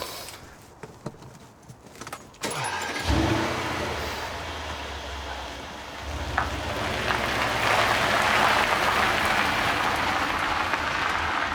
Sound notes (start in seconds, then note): 2.4 car engine starting; 6.7 gravel crunching